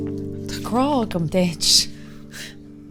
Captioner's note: in irish